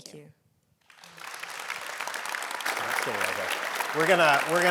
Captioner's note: audience applauding